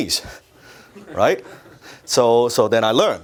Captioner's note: audience laughs